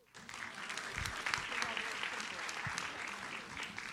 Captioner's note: audience applauds